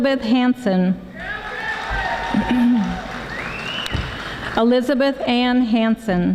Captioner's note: audience applauding